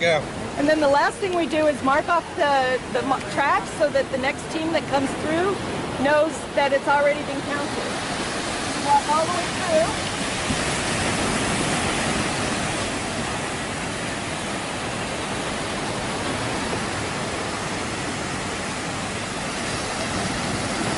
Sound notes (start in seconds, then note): 7.8 loud wave sounds